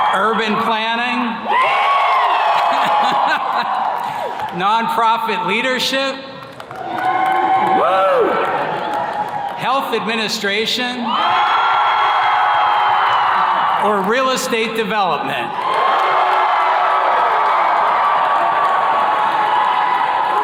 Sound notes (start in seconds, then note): 1.8 attendees cheers and claps; 2.6 laughing; 7.6 attendees cheers and claps; 11.6 attendees cheers and claps; 15.2 attendees cheers and claps